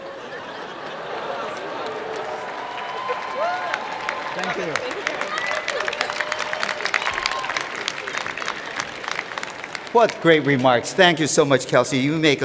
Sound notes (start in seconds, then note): 4.4 laughter; 8.6 applause